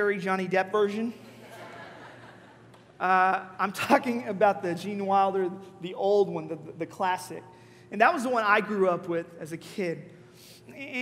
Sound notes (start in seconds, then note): 1.2 congregation laughing